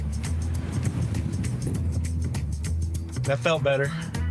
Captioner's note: engine revs